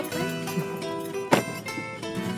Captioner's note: laughing